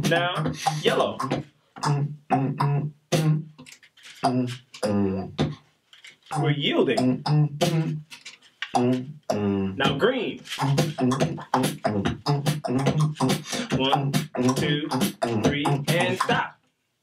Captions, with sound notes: Now, yellow. (beatboxing slowly) We're yielding. Now green. (beatboxing quickly) One. Two. Three, and stop.